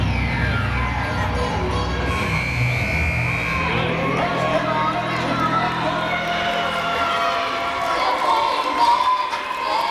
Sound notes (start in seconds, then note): 3.3 buzzer blaring; 6.5 yelling